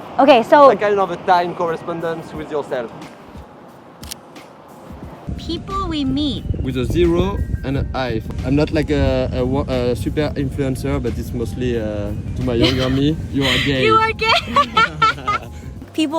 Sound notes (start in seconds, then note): 4.0 camera shutter clicking; 13.3 laughing joyfully